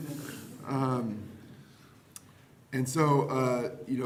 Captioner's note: chuckling